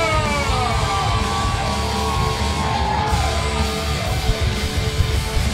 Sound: audience cheering; rock music

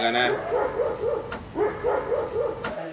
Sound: dog barking

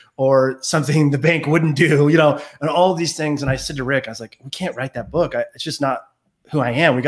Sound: none

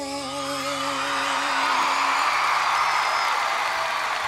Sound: crowd cheering

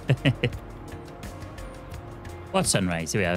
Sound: laughs

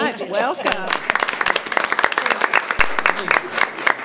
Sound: clapping

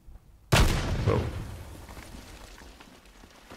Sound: gunshots

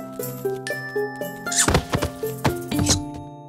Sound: huff and stumbles

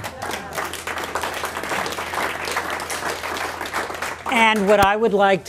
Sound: applause

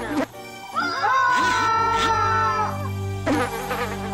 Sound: screaming sounds

